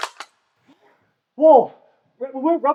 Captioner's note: gun clicks